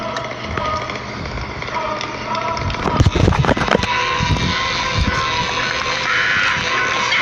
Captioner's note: chainsaw Whirring Harder